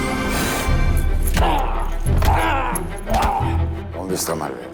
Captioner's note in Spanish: Golpes; Quejidos